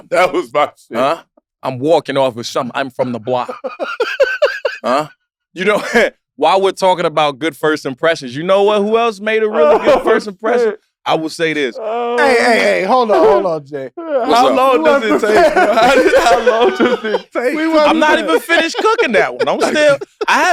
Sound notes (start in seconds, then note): 0.2 laughing; 3.0 laugh; 5.8 chuckles